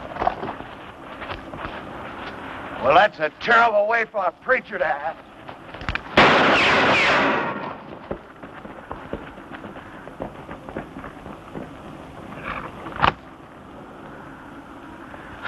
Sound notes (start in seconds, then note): 6.1 gunfire